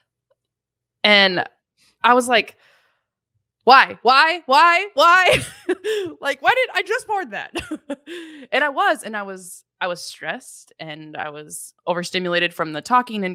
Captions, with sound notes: And I was like, why? Why? Why? Why? (laughs) Like why did, I just poured that. And I was stressed. And I was over stimulated from the talking.